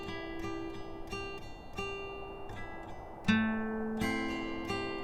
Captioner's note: none